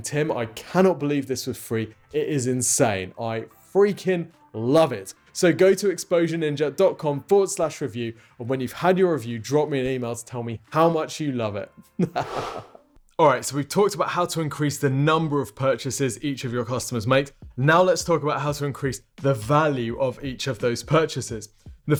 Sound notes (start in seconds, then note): 11.9 chuckles; 12.2 swoosh